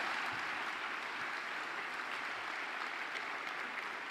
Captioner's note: applause